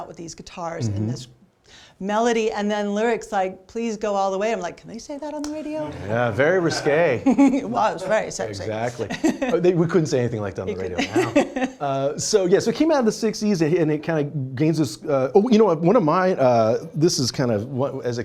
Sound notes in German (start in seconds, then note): 10.9 lachen